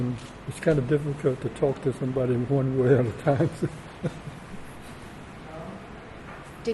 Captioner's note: laughs